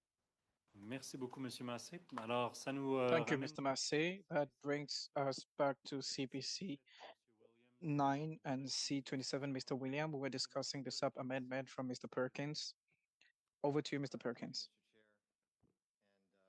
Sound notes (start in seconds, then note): 8.3 speaking French